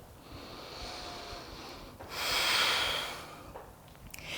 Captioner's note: deep breaths